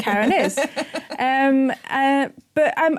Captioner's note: chuckling